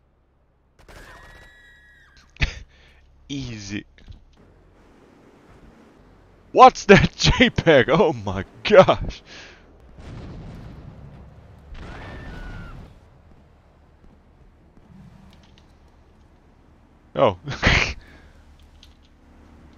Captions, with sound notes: Easy. WHAT'S THAT JPEG? OH MY GOSH! Oh. *snickers*